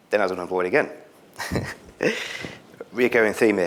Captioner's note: chuckles